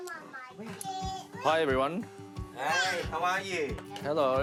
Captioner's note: kids chatter